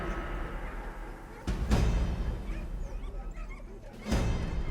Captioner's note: dogs barking; intense music